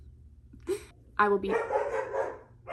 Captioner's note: dog barking